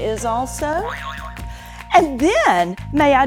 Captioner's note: buzzer boing